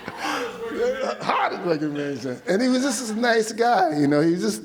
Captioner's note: laughs